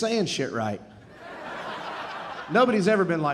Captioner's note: audience laughing